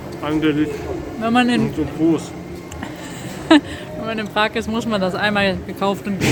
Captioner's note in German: Gelächter